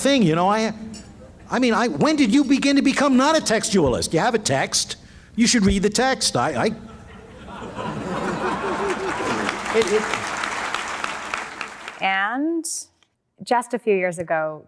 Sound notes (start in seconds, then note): 6.8 laughter; 8.4 applause